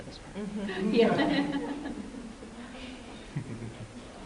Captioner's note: laughter